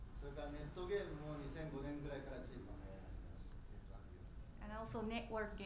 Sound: speaking in foreign language

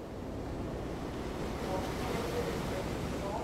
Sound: waves crashing

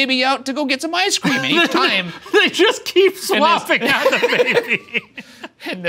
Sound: laughing

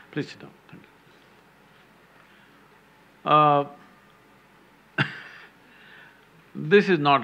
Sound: laughs

